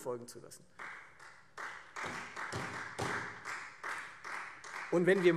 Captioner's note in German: Beifall Freie Demokraten